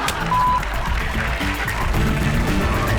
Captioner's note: audience laughs; beep; audience applauds